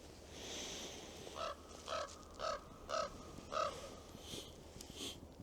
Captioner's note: crows caw